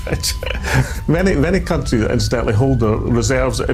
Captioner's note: laughing